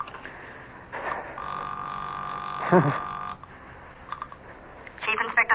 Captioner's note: phone rings